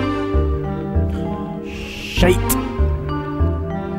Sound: exhales

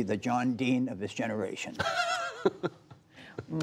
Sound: laughter

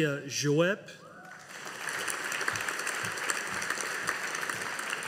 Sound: audience applauding

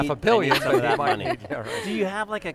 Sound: laughs

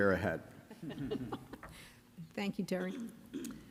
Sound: chuckles

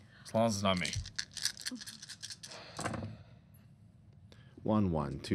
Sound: dice rattling

